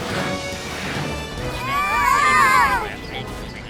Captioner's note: yelling